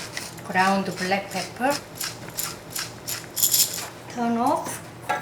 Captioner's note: pepper grinding